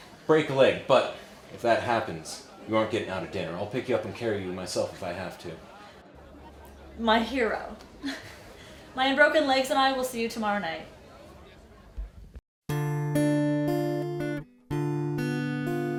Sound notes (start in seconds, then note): 7.8 chuckles; 12.7 gentle guitar music